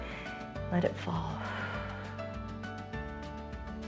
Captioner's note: exhales